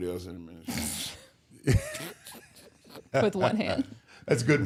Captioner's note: everyone chuckling